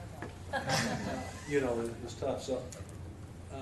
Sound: laughter

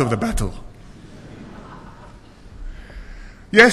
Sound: laughter

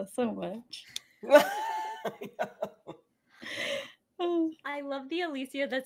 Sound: laughs

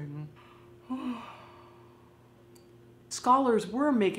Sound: yawns

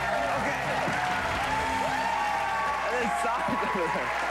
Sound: cheers and applause

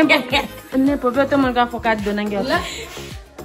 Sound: laughs

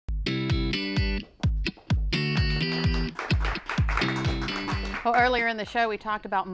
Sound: applause

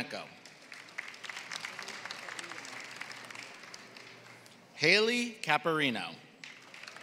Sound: applause; applause

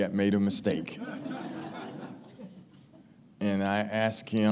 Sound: laughing

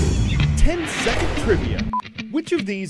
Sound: voice-over

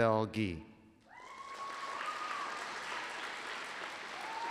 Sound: applause

